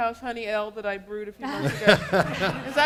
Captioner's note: laughter